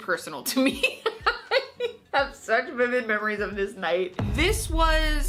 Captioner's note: laughs